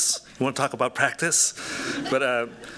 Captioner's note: laughter